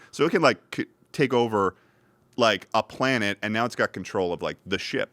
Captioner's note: none